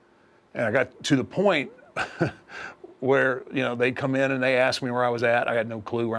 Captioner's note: laugh